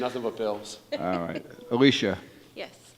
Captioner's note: woman laughs